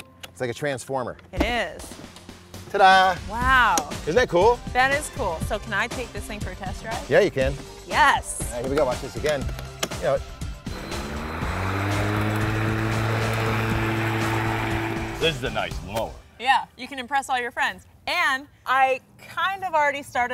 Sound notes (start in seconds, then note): 10.6 mower sound